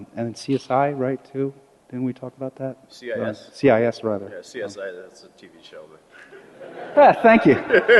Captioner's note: laughter